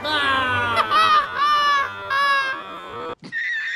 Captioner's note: hysterical laughter